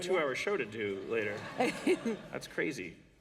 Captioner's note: laughter